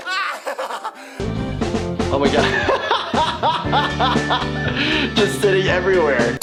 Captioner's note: man laughing; upbeat music; laughs